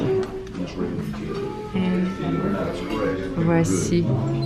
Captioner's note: indistinct background chatter